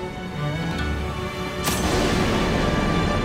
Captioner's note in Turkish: Müzik - Duygusal; Kılıç saplanma sesi